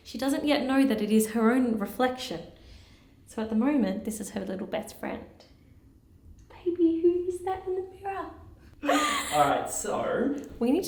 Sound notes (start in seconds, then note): 8.8 sighing